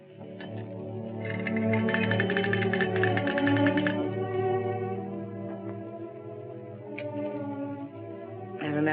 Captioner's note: toy rattles